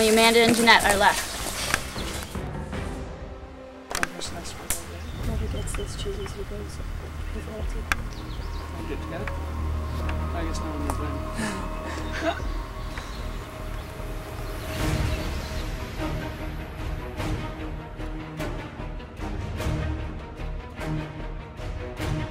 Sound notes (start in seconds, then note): 11.9 laughter